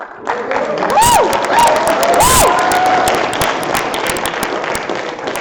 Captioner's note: applause